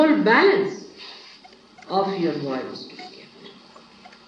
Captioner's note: none